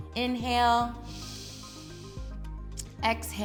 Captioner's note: inhales